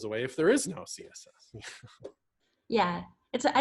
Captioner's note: laughs